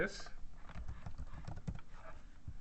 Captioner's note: typing sounds